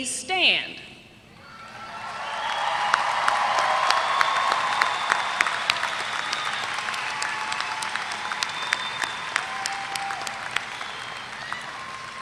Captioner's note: applause